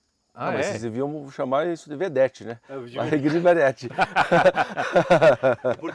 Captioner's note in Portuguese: risos